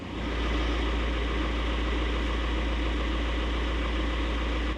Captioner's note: engine rumbling